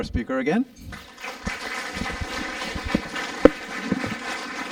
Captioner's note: applause